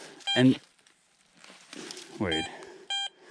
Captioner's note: metal detector beeps; metal detector beeping